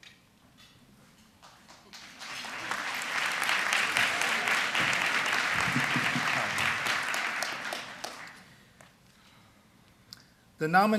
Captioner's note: applause